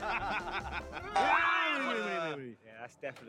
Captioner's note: speaking Japanese